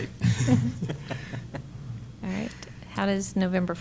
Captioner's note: laughter